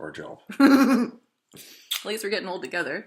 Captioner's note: smooching sound